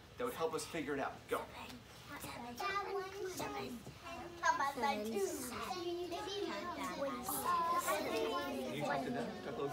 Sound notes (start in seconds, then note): 2.0 children talking to each other